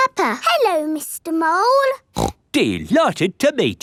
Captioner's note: snorts